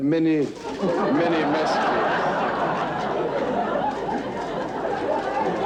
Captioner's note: audience laughing